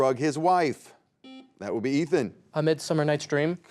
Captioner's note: buzzer beeps